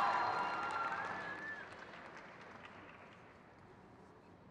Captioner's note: crowd cheers